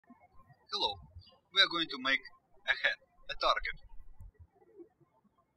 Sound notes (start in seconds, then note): 0.0 birds chirping; 4.5 birds chirping